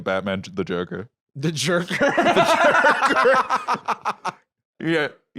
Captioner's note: laughing